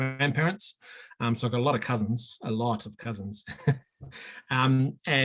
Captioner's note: chuckling